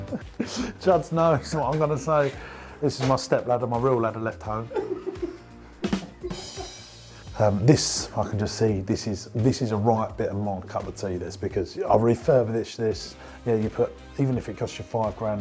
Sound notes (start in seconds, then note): 0.0 laughs; 4.6 chuckling; 5.8 comedic drum roll